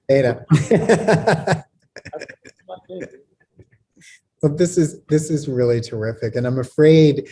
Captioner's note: laughs